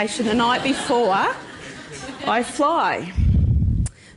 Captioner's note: laughter